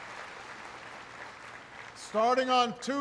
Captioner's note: applause